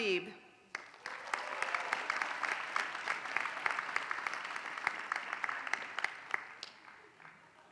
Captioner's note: applause